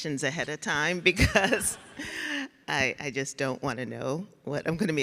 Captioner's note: laughs